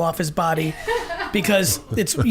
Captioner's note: woman laughing